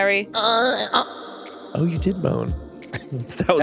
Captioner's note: moaning; laughs